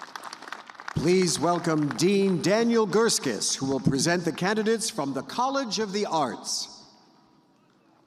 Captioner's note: applause